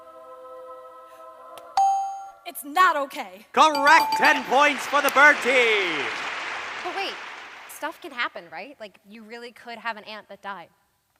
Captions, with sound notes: (ding) - It's not okay. (bings) - Correct, 10 points for the bird team. (applause) - But wait, stuff can happen right? Like you really could have an aunt that died.